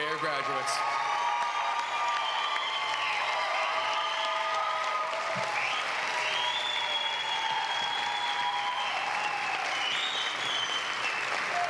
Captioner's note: applause